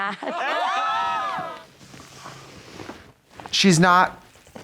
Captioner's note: all cheering